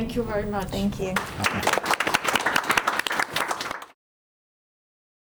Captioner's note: crowd applauding